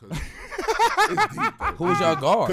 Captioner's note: laughs